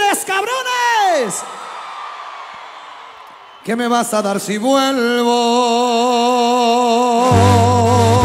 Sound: applause

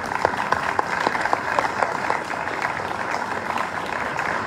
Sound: applause

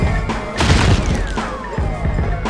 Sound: thud

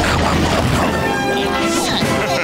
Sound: grunting

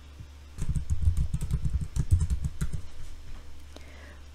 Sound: keyboard clacking

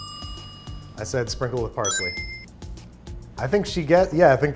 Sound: timer dings; bright chime rings

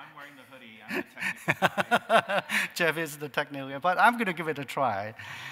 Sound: laughter

